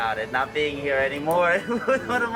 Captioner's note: laughs